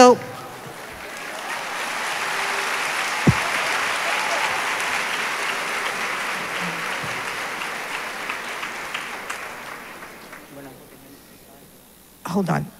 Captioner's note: applause